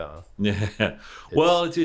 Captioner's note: laughs